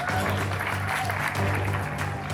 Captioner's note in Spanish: aplausos